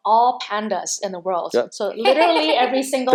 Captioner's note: laughing